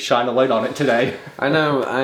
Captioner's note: laughs